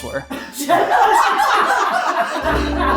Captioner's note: people in the background laughs loudly; gentle music